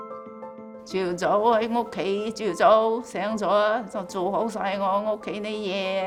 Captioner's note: speaking foreign language